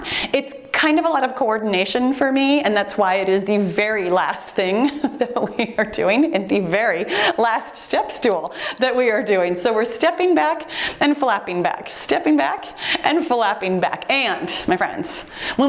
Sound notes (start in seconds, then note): 5.8 giggling; 8.3 timer beeps